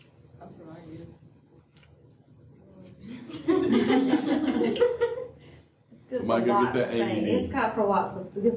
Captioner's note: laughter